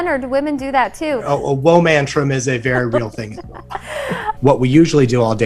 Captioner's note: laughs